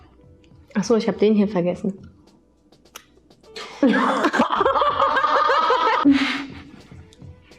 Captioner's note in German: lachen